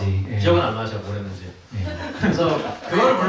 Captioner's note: laughs